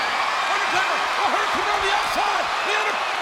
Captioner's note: crowd cheering